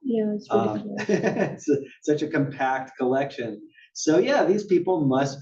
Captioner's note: laugh